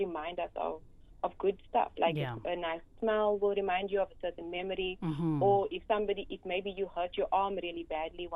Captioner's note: hm